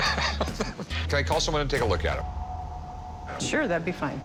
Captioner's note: laughs